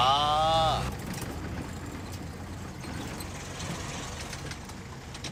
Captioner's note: cuban classic car running down the road with Korean engine attached